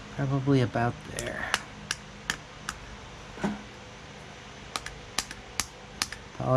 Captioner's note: tapping